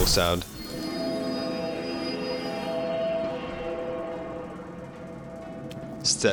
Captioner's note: chime